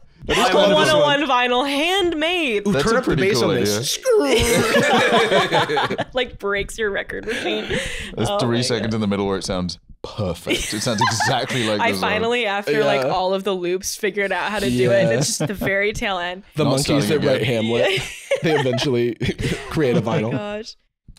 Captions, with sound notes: - "One of one vinyl, handmade!" - "Oh, turn up the bass." "SKRRRRR." (laughing) It breaks your record machine. There's three seconds in the middle where it sounds perfect. - It sounds exactly like the song. - I finally, after all of the loops, figured out how to do it, and it's just the very tail end. - The monkeys that write Hamlet, - Not starting again. they eventually create a vinyl.